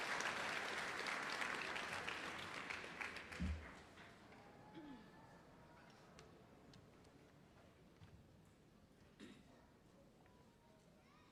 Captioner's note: applause